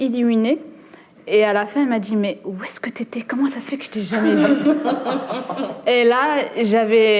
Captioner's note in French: rires